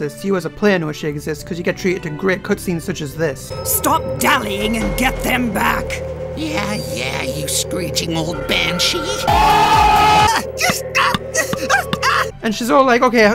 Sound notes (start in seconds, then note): 8.4 people cheering; 9.3 crying out in pain